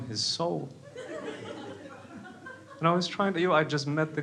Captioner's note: crowd laughs